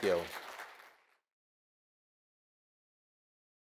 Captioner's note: applause